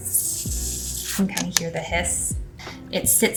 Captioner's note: bottle hisses